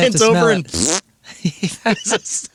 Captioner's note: blowing raspberry